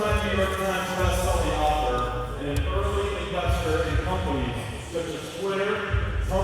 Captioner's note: speaking off mic